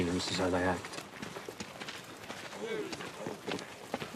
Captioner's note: crowd murmuring